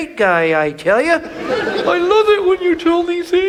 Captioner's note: audience laughs